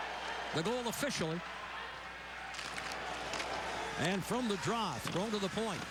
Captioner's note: cheers and applause